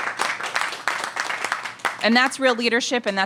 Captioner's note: applause